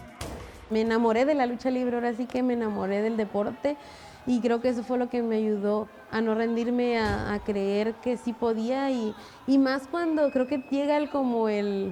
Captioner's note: speaking Spanish